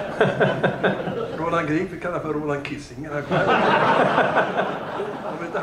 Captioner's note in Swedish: Skratt; Skratt